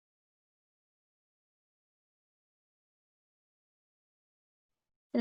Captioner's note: silence